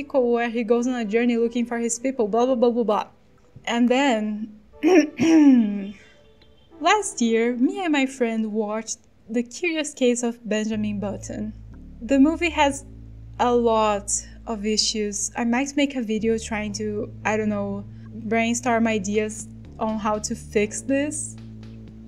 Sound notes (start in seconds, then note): 5.2 cough